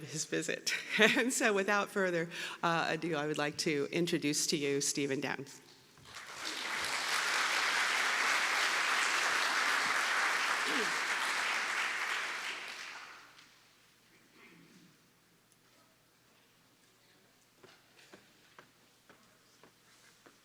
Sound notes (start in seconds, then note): 9.5 applause